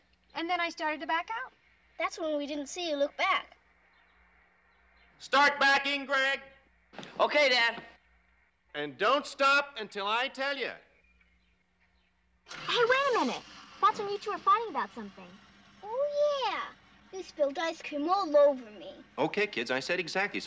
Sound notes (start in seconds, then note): 12.4 engine turns